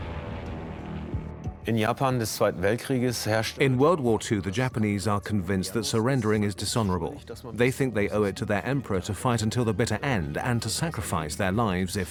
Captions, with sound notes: (airplanes drone) (in German) (dubbed in English) In Japan, b, to surrender was dishonorable. They think they owe it to their Emperor to fight until,